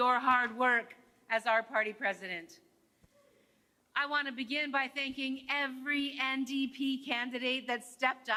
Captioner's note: speaking French